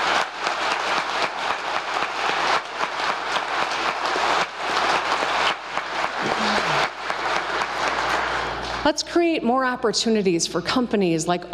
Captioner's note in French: applause